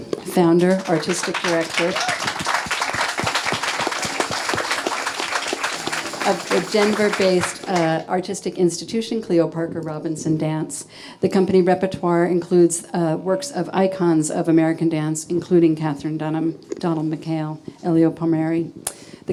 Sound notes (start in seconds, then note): 2.3 audience clapping